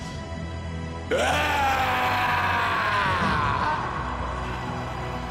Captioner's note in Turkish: Haykırıyor